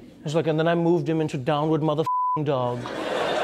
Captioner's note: beep